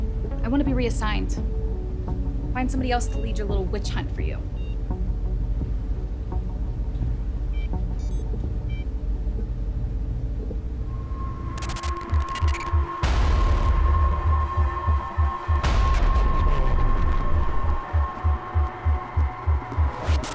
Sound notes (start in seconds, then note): 5.5 machinery beeping; 5.5 tense music; 12.1 intense music